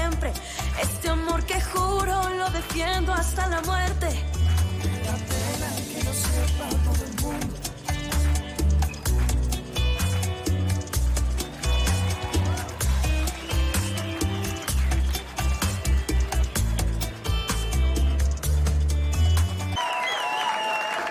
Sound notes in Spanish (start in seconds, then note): 10.8 Aplausos; 11.8 Chiflidos; 15.6 Aclamaciones; 15.6 Aplausos